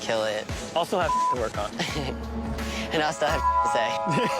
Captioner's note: beep